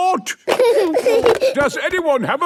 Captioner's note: giggling